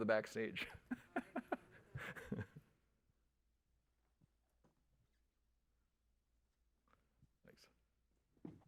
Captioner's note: laughs